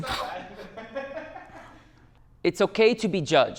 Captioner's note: laughter